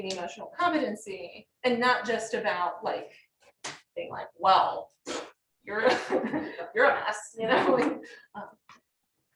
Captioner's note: laughter